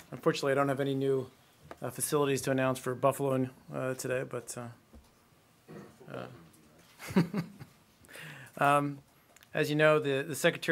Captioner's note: laughter